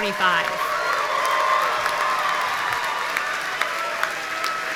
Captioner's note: audience cheering